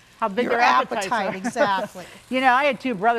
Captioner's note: laughing amusingly